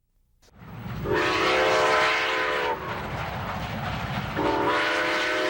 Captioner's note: train whistling and chugging